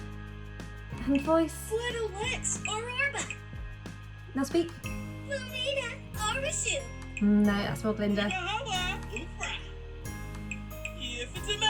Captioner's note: Sim speaks high pitched